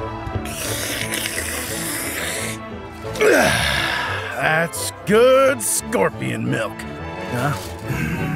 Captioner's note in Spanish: grotescos sonidos de sorbido